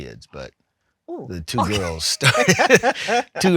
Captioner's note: laughs